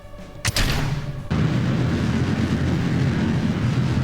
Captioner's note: rocket blasting